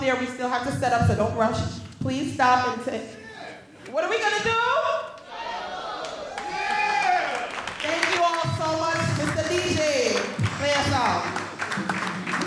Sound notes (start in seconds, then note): 3.2 graduate shouting; 5.2 graduates cheering